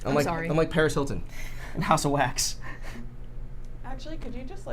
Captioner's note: laughs